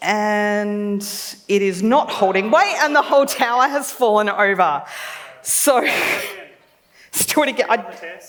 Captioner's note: laughs